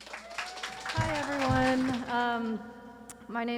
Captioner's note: audience cheering and applauding